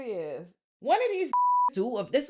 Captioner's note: beep